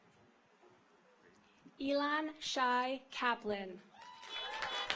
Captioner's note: audience applauds